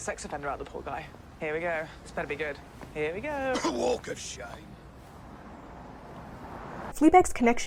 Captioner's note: coughs